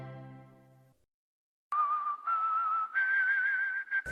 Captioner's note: whistling